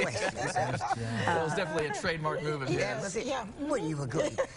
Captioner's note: laughter